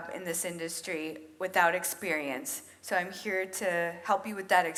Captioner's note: none